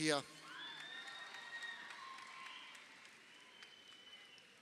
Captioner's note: crowd cheering